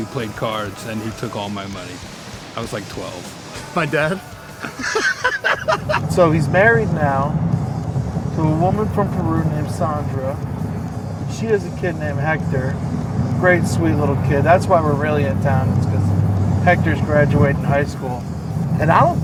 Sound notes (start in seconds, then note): 4.2 laughter